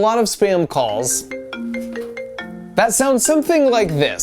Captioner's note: phone ringing